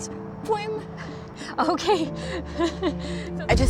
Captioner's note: laughs